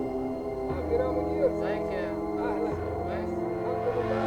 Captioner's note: Arabic spoken audio